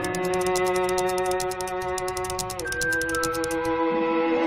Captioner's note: gears ticking